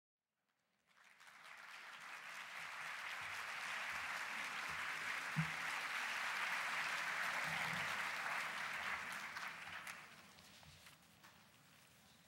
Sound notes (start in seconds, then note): 0.5 applause